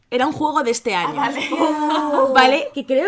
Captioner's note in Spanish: risas